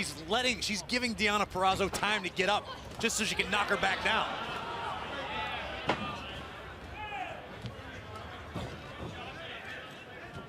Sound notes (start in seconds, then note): none